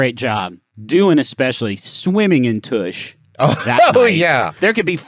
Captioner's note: laughing